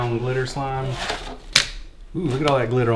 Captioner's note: splats